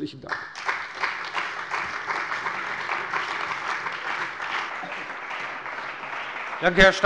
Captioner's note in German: Beifall bei der CDU und dem BÜNDNIS 90/DIE GRÜNEN